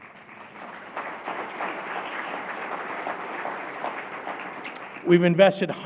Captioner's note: applause